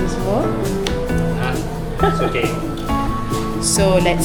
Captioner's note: laugh